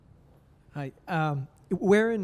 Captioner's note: voiceover